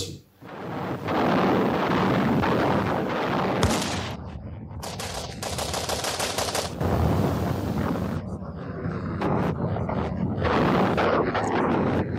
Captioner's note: sounds of artillery fire